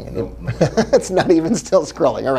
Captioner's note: laughing